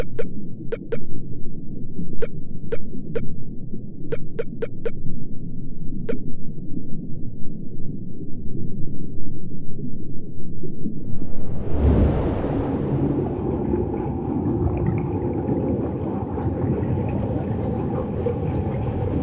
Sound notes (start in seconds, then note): 11.0 waves crashing; 15.2 water sloshing